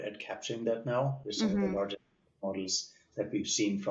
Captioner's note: audio cutting out